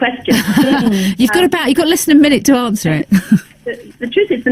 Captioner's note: laughing